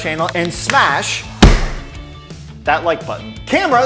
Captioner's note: box thuds